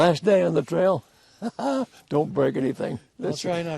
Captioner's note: laughs